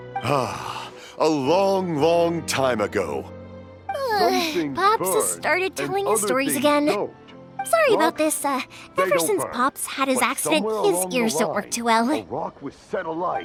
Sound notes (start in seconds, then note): 4.0 sigh